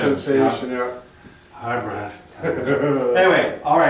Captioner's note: laughing